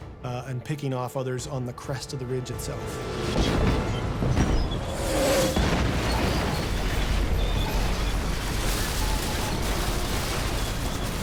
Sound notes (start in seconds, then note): 3.1 shells exploding